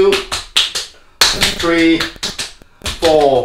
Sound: slapping

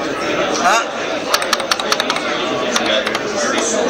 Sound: typing sounds

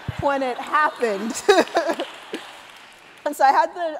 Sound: laughter

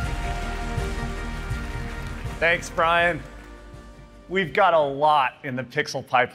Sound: applause

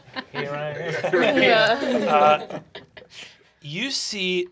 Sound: group laughing

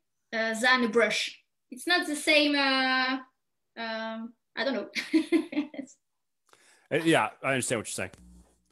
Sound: chuckles

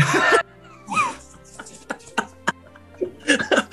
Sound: laughing; building laughter

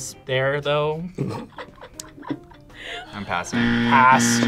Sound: React laughs

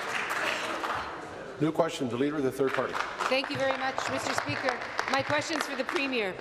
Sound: applause

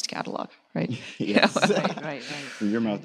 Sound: laughs

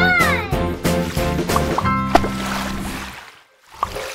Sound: splooshing

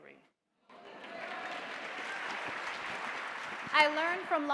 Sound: audience applauding

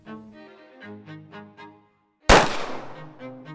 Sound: gunshot noise

